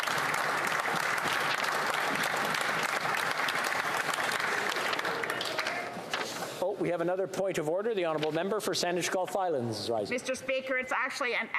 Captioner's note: applause